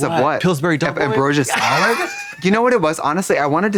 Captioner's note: Katya rasps